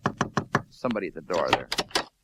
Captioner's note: knock knock knock